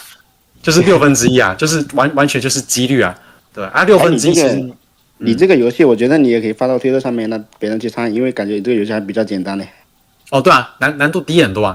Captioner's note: non-english speech